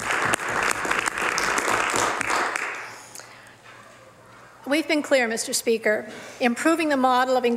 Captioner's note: some Applause